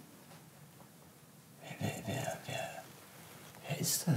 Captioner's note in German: flüstert